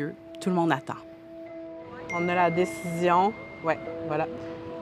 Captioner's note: cell phone ping